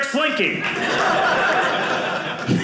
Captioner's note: audience laughing